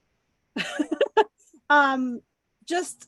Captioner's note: laughs